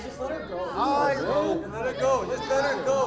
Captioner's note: chattering